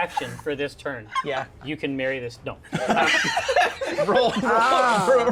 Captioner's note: laughter